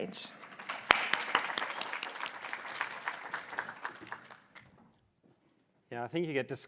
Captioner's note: applause